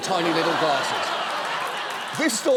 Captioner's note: audience laughs